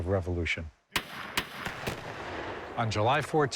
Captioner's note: gunfire